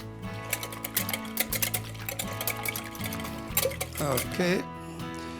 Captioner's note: whisking sounds